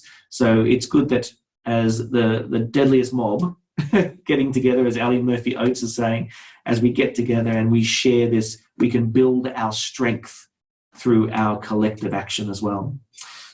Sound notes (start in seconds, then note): 3.8 laughs